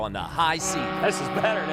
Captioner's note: ship horn blares